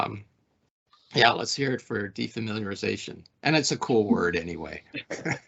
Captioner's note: laughing